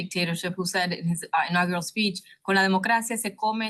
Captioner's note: speaking in foreign language